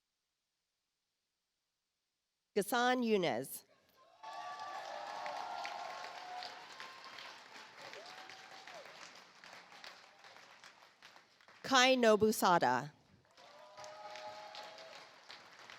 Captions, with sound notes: Ghasson Younes. (audience applauds) Kai Nobusada. (audience applauds)